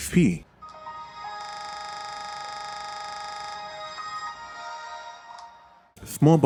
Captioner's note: Windows XP startup sound plays, but stutters